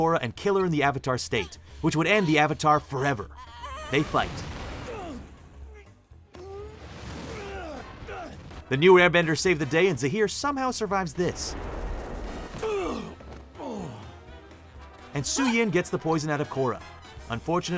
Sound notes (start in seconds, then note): 4.3 grunting; 12.6 groaning